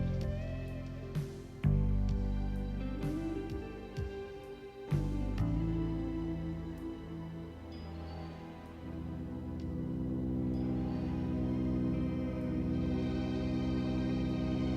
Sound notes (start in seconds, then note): 6.2 lamp buzzing; 7.6 eerie music